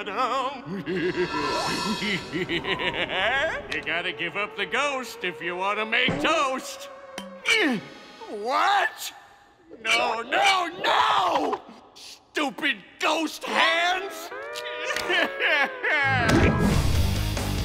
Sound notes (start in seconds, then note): 0.0 laughing; 7.2 grunting; 13.4 crying